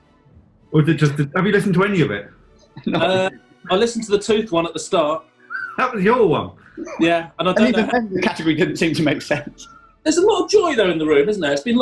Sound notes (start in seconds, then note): 2.7 laughing